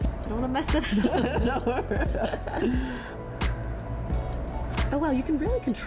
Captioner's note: laughter